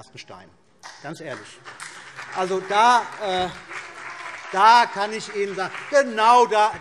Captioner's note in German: Beifall